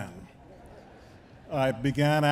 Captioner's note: attendees chuckling